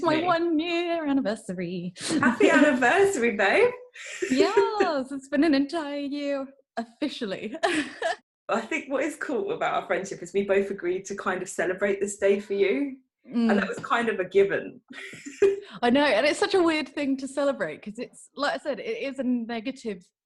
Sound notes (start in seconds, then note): 7.6 giggles; 14.6 giggles